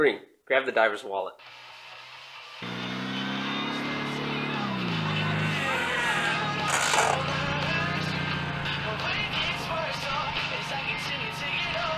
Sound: pizza car screeches to a parking lot in front of the lair

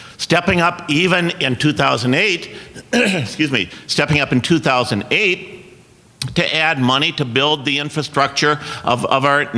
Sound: coughs

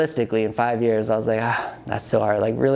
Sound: sighs

